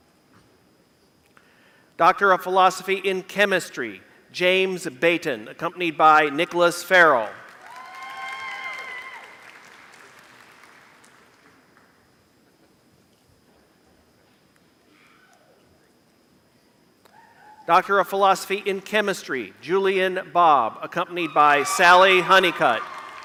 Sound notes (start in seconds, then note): 7.2 applause; 23.0 applause